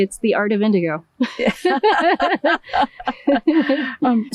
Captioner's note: laughing